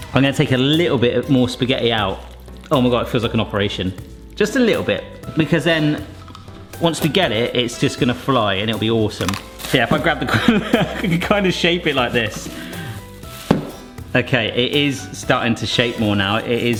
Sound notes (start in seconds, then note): 10.2 laughs